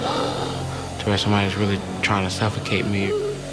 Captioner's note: gasping